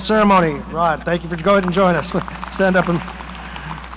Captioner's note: audience applauding